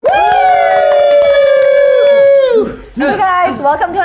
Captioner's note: group cheering